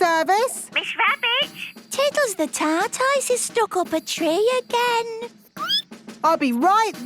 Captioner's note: squeaking